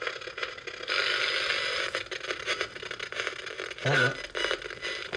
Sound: static crackling

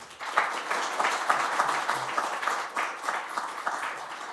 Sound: applause

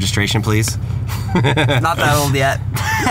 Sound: laughing

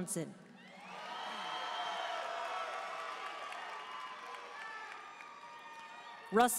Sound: audience cheering and applauding

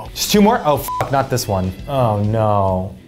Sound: beep

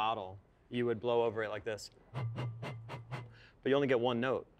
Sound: light airy whistle

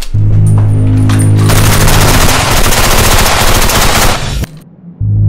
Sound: gun firing; machine gun shots

